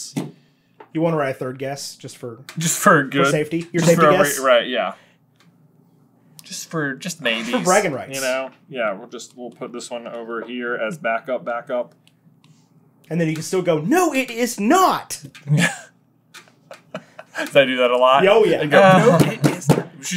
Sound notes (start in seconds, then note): 18.6 laughs; 18.9 pound